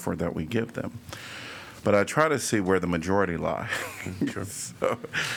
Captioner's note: laughter